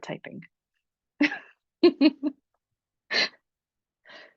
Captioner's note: laughs